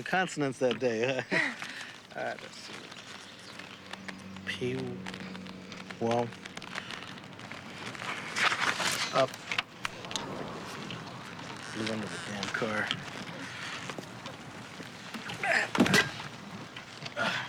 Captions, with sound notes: All right, let's see. Pi... wow... Uh... Blew under the damn car. (grunts)